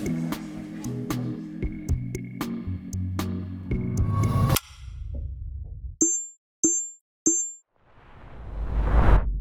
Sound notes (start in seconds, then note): 0.0 relaxing music; 5.1 letters ding